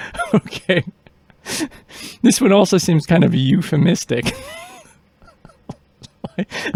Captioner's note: laughing; laughing